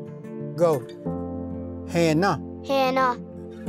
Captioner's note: repeats in Cherokee